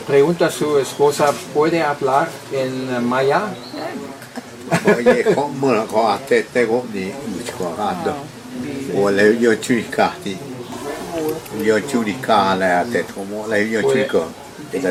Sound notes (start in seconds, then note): 3.9 speaking in Mayan